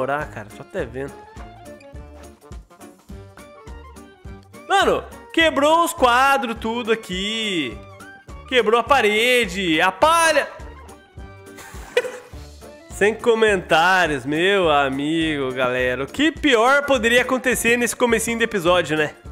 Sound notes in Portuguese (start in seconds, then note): 11.5 Risos